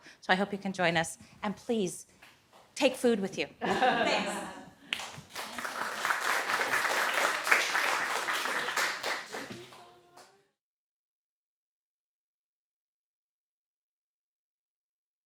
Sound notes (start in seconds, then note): 3.6 audience laughs; 4.8 audience applauds